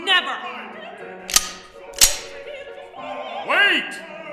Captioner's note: gun cocks